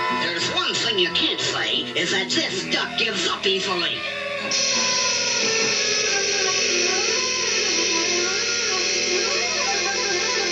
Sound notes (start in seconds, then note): 4.4 sizzle